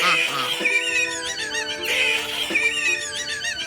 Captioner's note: Callie Still Laughing